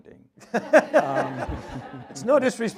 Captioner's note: audience laughs